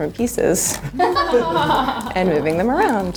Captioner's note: group laughs